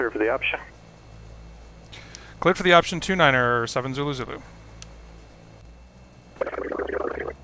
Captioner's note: me on radio